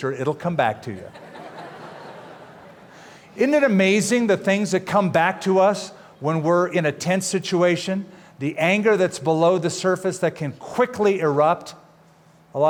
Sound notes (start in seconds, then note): 1.1 laughter